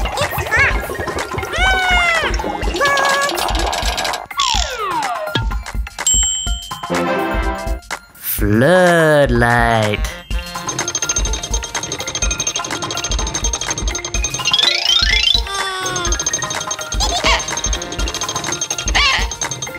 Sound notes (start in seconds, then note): 0.0 Gigglebot laughs; 2.8 Gigglebot yells; 6.8 tada fanfare